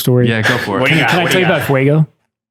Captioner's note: laughing